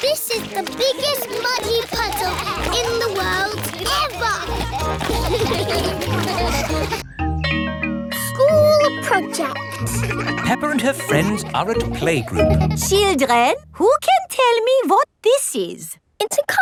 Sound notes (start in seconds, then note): 3.6 all giggling; 5.3 all laughing; 7.4 school bell rings